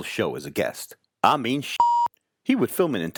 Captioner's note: beep